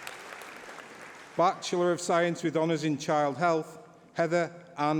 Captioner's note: applause